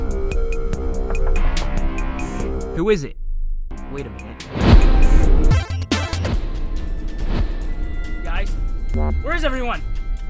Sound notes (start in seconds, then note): 0.9 knocking